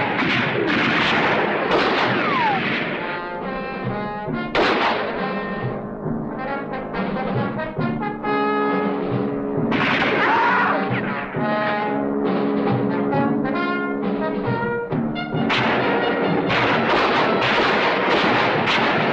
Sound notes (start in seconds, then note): 10.1 man screaming; 15.4 guns firing continues